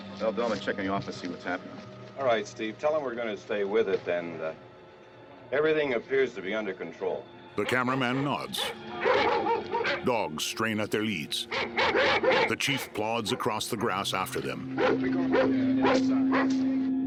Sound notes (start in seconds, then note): 7.6 dogs barking aggressively; 14.2 indistinct chatter